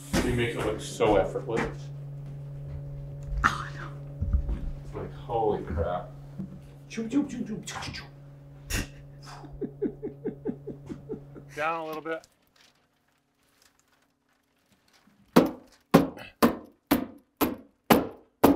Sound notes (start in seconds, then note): 8.6 laughing; 15.4 nail gun banging